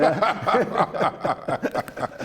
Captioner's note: laughter